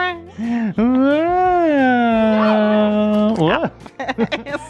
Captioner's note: moans; both laugh